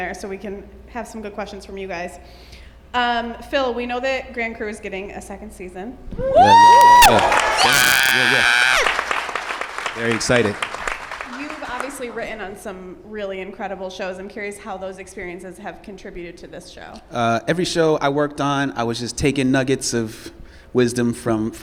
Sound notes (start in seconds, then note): 6.2 whoops and cheers